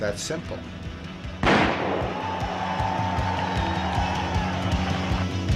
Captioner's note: gunshot; crowd cheering